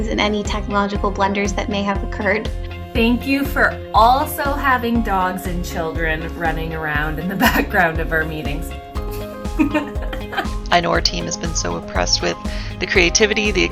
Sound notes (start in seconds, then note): 9.6 laughs